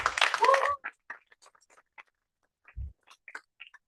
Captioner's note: cheers and applause